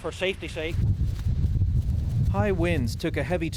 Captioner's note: roaring wind